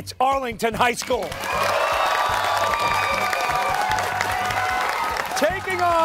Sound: cheers and applause

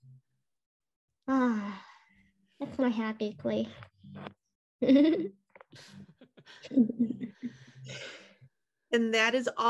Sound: laughter

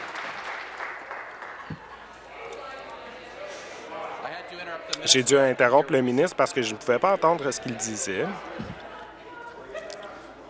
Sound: some Applause

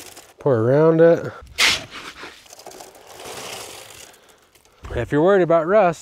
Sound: concrete mix pouring in

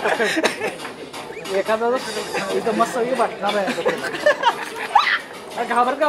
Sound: speaking foreign language

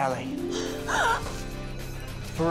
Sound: gasps

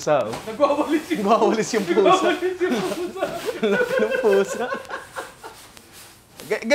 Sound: laughter

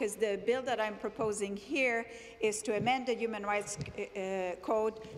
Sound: speaking French

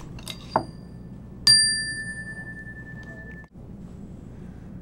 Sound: rings bell

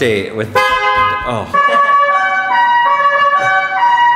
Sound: horn honking

